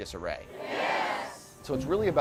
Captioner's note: crowd